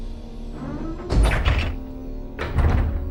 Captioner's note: click